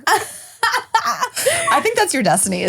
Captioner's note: laughing